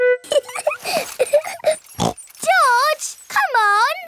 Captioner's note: laughs and snorts